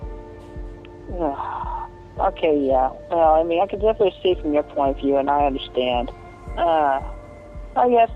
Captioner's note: sigh